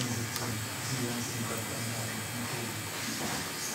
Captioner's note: conversation in the background, whirring noise